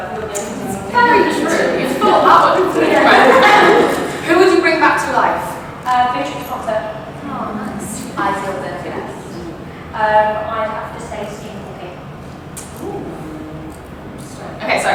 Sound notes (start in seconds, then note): 0.4 they all laugh